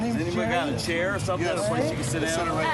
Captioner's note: none